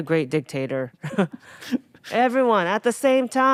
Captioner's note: Atsuko laughing